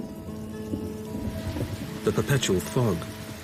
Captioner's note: thunder rumbling; rain pattering